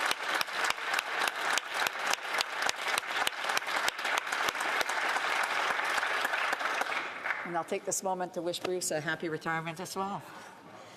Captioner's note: applause